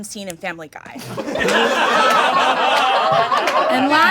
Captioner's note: audience laughing